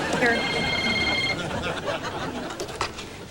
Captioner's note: cell phone rings